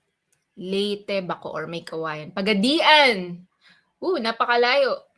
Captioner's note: speaks in Filipino